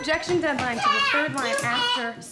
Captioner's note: children squabbling unintelligibly